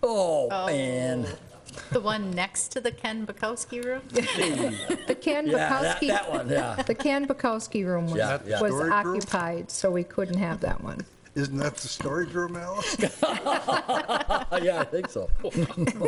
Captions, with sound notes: Oh Ann! The one next to the Ken Bukowski Room? Yeah, that one, yeah. (laughing) The Ken Bukowski Room was occupied so we couldn't have that one. Isn't that the storage room? (laughing) Yeah, I think so.